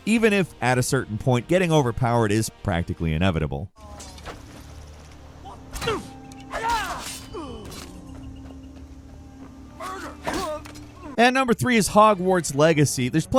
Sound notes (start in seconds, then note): 6.4 character screams; 7.2 character grunts; 9.8 character grunts; 9.8 ax strikes